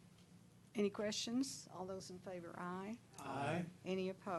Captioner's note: chorus of ayes